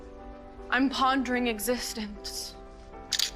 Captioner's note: camera shutter clicking